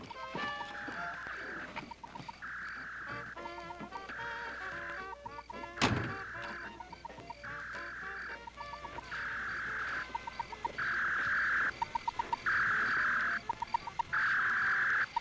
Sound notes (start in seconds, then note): 0.3 upbeat jazzy music; 9.4 beeping; 9.4 whirring